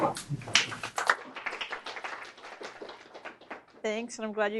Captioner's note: applause